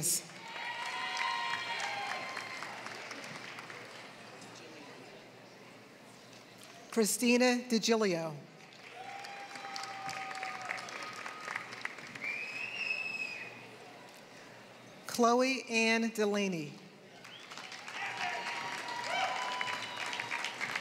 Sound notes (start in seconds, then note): 0.0 applause; 8.6 applause; 17.1 applause